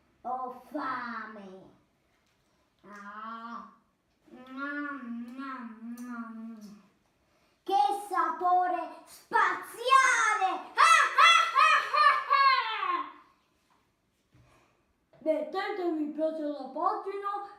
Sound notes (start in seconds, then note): 11.5 evil laugh